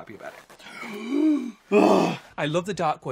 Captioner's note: gasping